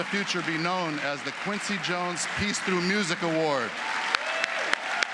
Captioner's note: applause